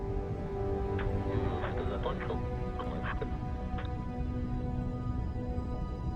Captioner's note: man speaking in foreign language